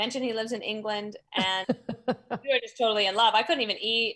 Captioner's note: laughs